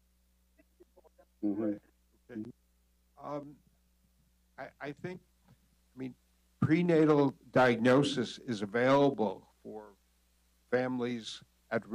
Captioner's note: laughter